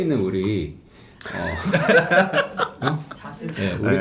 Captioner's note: laughing already